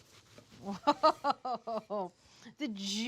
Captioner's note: laughs